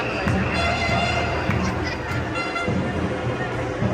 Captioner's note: laughing